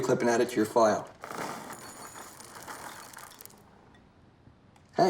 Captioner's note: cereal pours